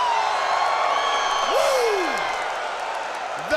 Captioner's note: crowd cheering